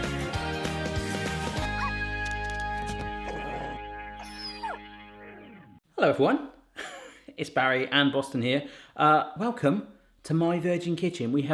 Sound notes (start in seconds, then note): 1.9 dog barks